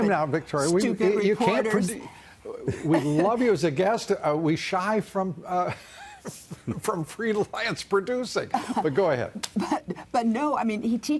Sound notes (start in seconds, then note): 2.7 laughter